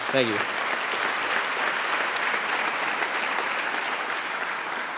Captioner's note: applauding